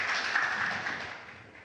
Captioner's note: applause